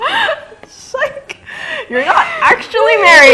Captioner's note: laughs